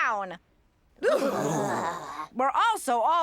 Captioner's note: all shuddering